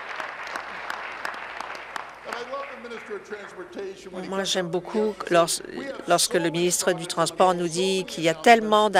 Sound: applause

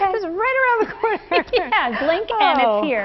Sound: laughter

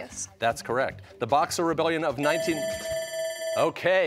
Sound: bell ringing

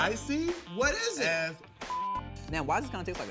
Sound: beep

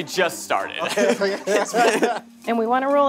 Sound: both laughing

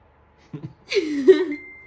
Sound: laughs

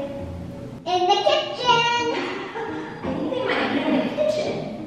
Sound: laughs

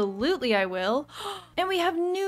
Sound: gasp

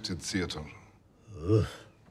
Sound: disapproving normie noises

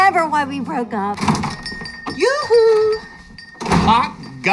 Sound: bell chiming

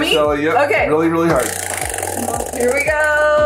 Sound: spinner rattling

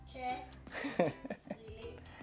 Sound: giggles

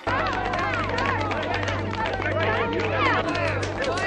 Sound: clapping, etc

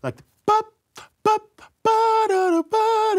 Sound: vocalizes

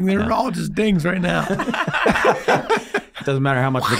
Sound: all laughing

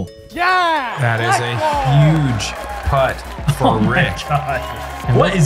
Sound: chuckles

